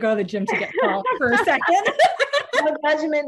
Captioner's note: laughs